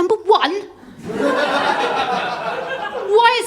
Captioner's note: laughter